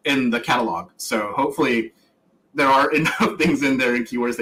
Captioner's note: laughs